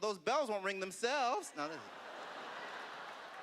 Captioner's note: laughter